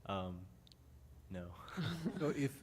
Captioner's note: laughter